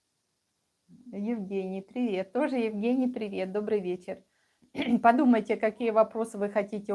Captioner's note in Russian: откашливается